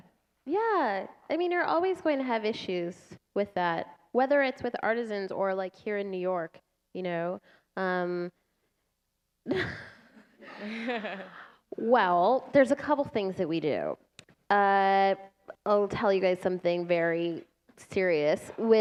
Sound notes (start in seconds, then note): 6.6 laughter